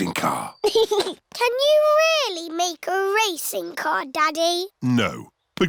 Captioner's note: chuckles